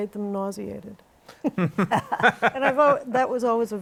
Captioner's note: laughter